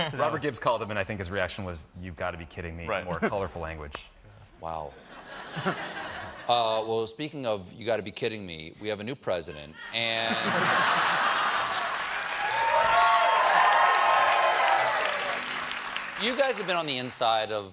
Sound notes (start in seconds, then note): 12.8 laughter; 13.8 cheers and applause